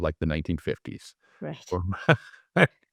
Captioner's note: laugh